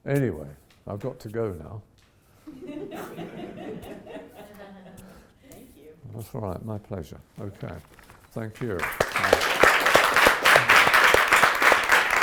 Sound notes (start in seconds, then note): 2.5 audience laughs; 8.6 audience applauds